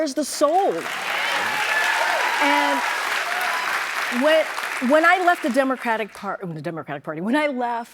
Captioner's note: cheers and applause